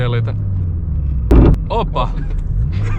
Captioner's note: transmission creaks shitty